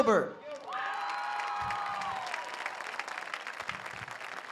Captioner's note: audience cheers